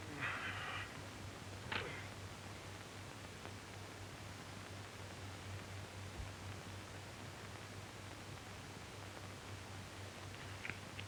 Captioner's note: sighing